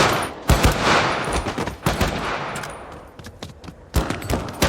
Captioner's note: guns firing